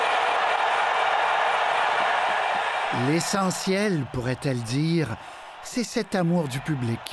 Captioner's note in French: acclamations